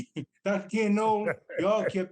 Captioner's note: Tommie laughs